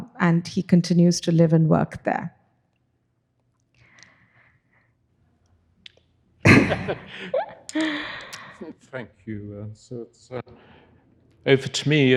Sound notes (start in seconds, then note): 2.3 chuckling